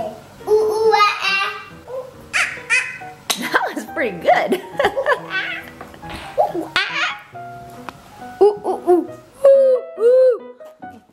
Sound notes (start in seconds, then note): 2.3 monkey sounds; 6.3 monkey sounds